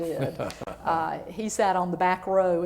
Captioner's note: laughter